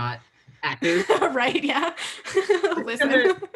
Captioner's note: laughing